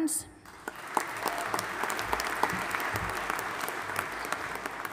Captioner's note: audience applauding